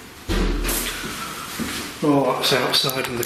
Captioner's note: loud banging